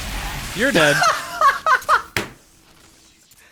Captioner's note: laughs